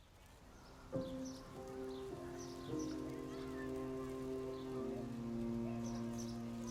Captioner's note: birds chirping; somber orchestral music